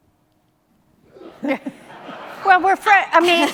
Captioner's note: audience laughing